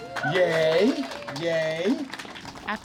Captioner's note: cheers and applause